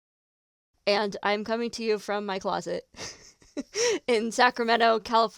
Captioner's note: laughs